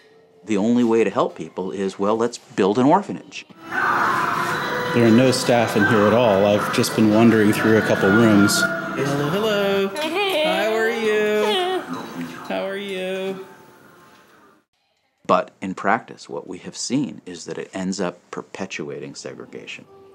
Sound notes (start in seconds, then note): 9.9 moans; 14.5 voice-over